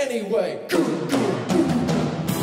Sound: drum - fill - with my mouth

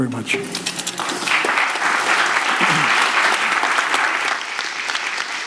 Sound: audience applauds

